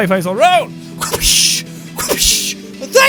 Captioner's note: wha-phish, wha-phish